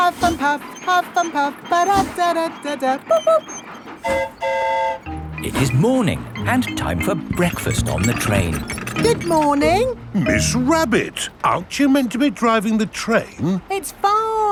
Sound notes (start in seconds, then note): 4.0 train whistle toots; 4.0 mimics train whistle